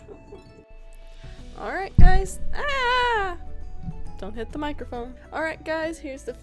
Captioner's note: hits mic